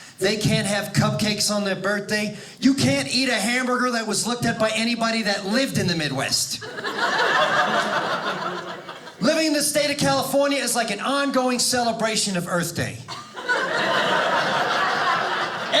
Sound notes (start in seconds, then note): 6.6 audience laughing; 13.1 audience laughing